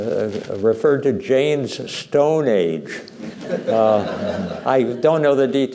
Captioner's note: laughter